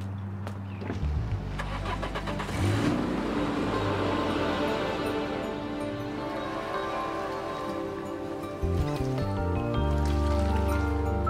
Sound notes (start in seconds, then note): 0.9 engine revving; 7.3 birds squawking; 7.3 gentle music